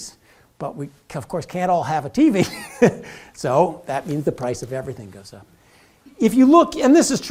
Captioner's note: laugh